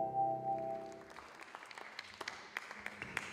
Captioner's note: applause